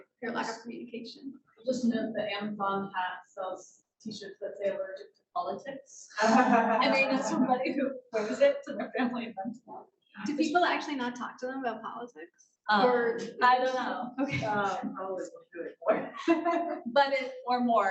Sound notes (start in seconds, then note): 6.2 laughing